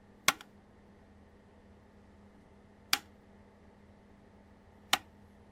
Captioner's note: lock tumblers click